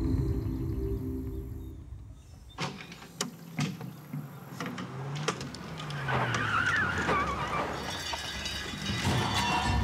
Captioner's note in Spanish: estruendo; rechinar de llantas